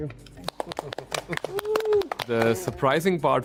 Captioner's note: panelists applauding